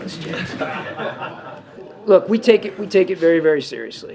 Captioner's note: laughter